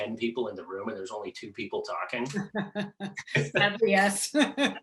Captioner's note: laughing